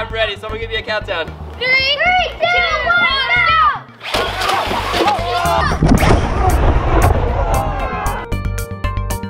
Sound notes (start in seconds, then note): 4.1 engine revving; 4.1 group cheering; 5.7 rhythmic, jazzy music